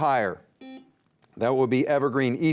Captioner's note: buzzer beeping